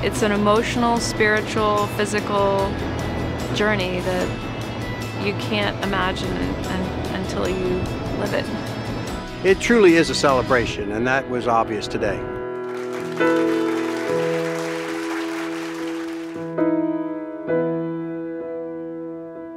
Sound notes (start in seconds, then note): 12.6 applause and Music